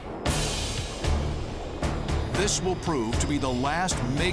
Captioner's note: splash